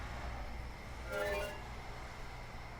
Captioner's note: notification tone